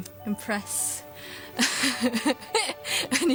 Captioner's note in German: lacht